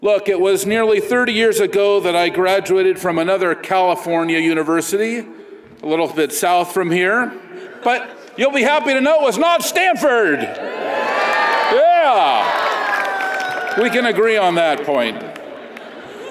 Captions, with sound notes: Look, it was nearly 30 years ago that I graduated from another California university, a little bit south from here, but you'll be happy to know it was not Stanford! (audience cheers) Yeah! We can agree on that point.